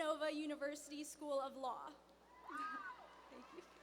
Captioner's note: cheers